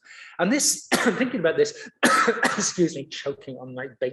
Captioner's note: coughs